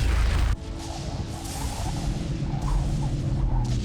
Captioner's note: zapping intensifies